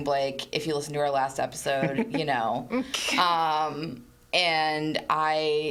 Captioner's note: laughs